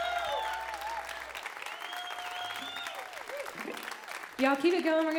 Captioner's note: crowd applause